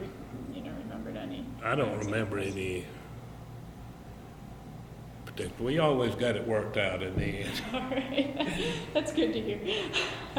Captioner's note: both laugh